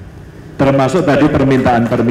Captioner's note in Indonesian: tepuk tangan